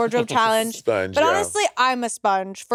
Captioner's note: chuckling